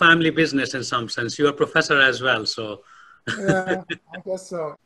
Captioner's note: laughs